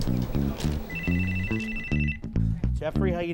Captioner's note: telephone rings